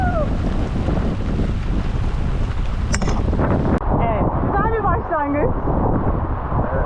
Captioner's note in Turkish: Rüzgar sesi